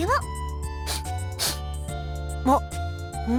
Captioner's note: sniff